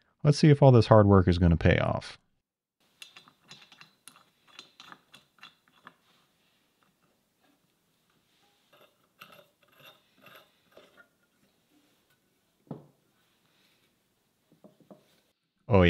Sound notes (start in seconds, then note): 3.0 metal clacking; 8.4 screw rasping; 12.6 table thuds